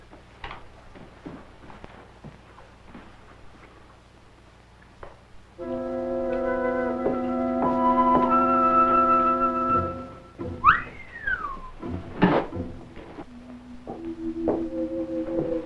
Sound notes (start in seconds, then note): 1.7 speaking in foreign language; 11.2 suspenseful music